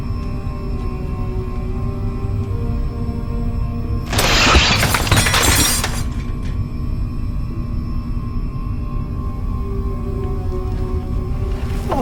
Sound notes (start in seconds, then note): 0.3 suspenseful music continues; 4.0 parts falling; 7.6 suspenseful music continues